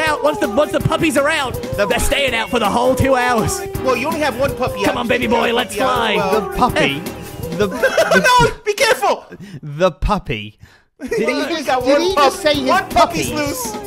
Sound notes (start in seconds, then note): 7.6 laughter